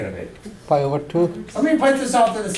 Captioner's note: voiceover